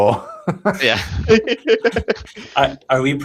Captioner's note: laughter